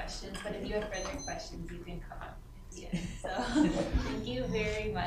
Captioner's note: laughter